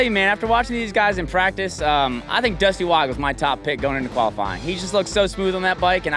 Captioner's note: none